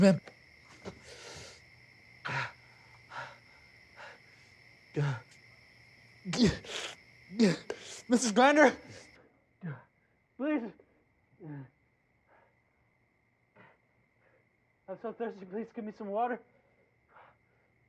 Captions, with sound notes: [panting] [grunting] Mrs. Grinder. Please. I'm so thirsty. Please get me some water.